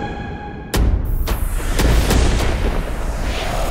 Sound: thundering

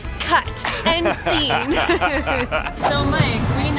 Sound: laughing

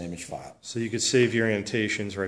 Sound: voiceover

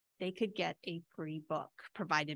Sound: none

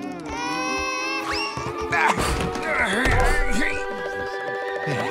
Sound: baby crying; grunting

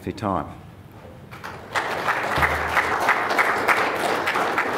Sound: applause

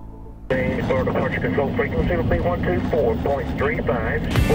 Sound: radio chatter

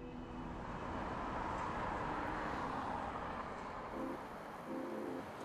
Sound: vehicles passing

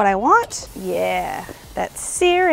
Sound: food sizzles

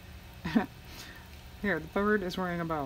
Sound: laughs

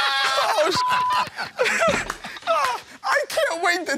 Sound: laughter; beep

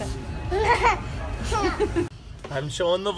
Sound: kid laughing

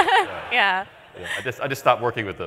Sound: laughter

